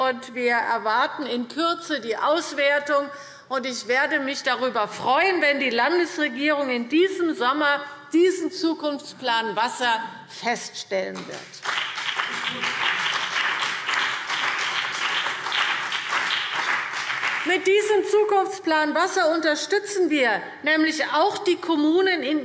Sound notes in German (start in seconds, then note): 11.2 Beifall BÜNDNIS 90/DIE GRÜNEN und vereinzelt CDU